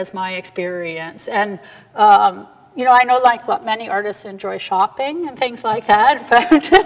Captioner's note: laughs